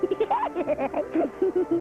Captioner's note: laughing